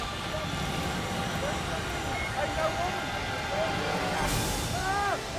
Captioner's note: firemen shouting